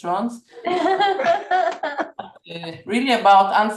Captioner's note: laughter